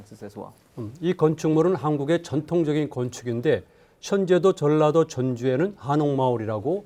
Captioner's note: speaking in Korean